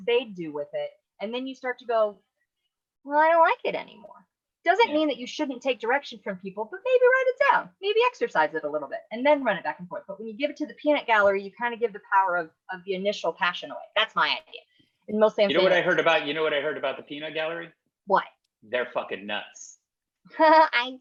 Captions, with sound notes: they'd do with it, and then you start to go, "Well, I don't like it anymore." Doesn't mean that you shouldn't take direction from people, but maybe write it down, maybe exercise it a little bit, and then run it back and forth. But when you give it to the peanut gallery, you kinda give the power of the initial passion away. That's my idea. Mostly, I'm (speaks faintly). You know what I heard about the peanut gallery? What? They're fucking nuts. Ha ha